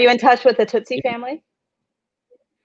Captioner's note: none